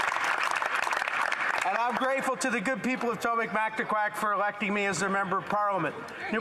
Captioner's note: some Applause